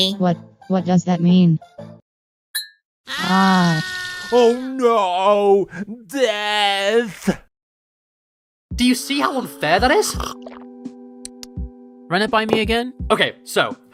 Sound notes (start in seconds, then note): 3.0 both scream; 9.8 drinking sounds